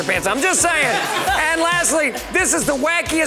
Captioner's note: woman laughs